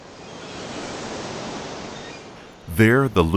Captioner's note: waves crashing